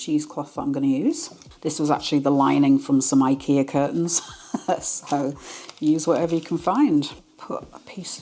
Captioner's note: laugh